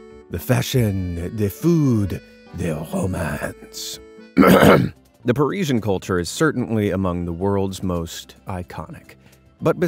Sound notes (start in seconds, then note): 4.3 coughs